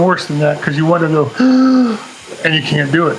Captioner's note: takes long breath